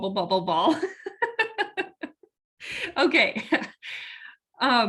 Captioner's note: laughs